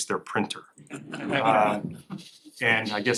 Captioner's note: laughter